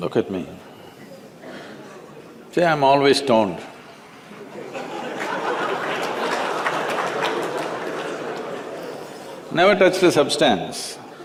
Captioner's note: laughter